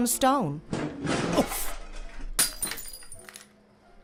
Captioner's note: commotion